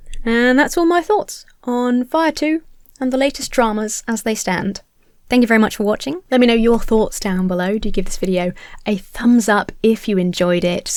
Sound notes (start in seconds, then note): none